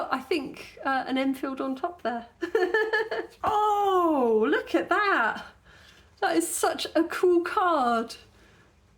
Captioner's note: laughing